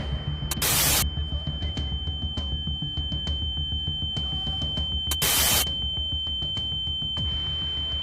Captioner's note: muffled Talking and Ear Ringing Intensifies